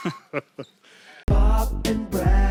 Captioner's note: men laughing